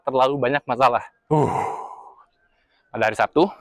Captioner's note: taking breath